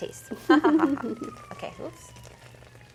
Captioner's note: both laughing